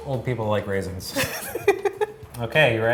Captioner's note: laughing